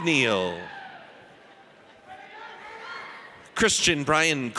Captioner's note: audience cheers